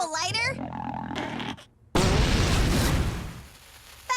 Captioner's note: big fart; flames whoosh